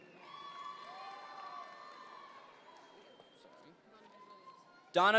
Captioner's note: audience members cheer